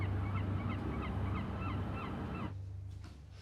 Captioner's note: birds chirping